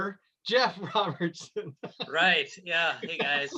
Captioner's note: laughs